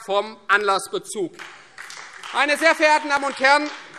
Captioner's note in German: Beifall Freie Demokraten